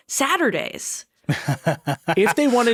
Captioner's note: chuckling